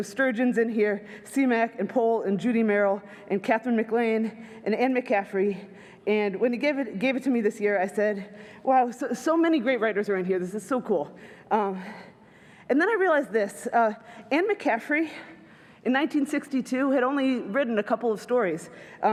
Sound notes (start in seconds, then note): none